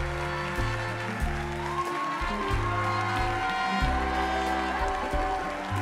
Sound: applause

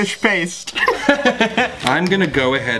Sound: laughs

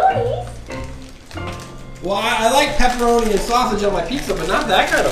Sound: voiceover

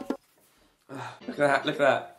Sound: drumming; sighing

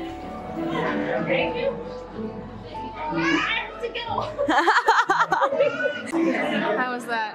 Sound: laughter

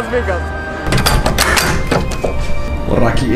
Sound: door opens

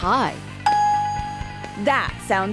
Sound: bell dinging

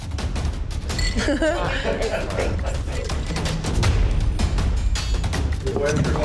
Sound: tense music; ice clinking

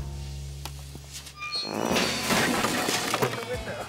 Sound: crash

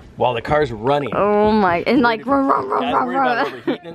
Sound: imitates engine noises

